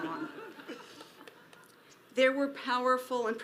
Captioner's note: audience laughs